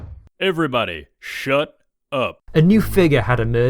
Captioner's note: bang bang bang